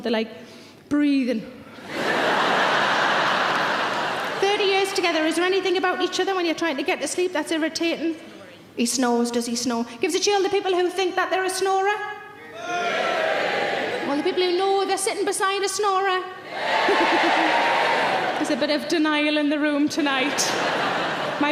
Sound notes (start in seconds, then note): 1.8 audience laughing; 12.5 audience yelling; 16.4 audience yelling; 20.0 audience laughing